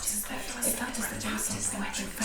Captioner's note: whispering voices